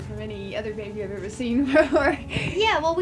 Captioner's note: laughing